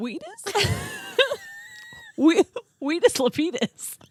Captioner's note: laughing